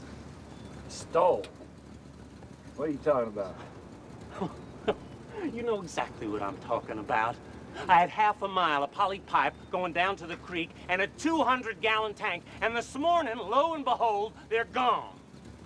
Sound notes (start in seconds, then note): 4.2 snickering